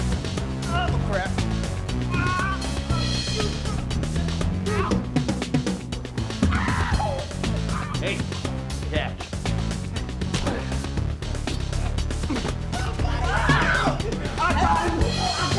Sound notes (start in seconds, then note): 0.0 fast-paced music; 9.9 punching sound; 13.1 screaming